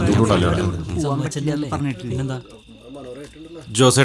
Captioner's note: indistinct chatters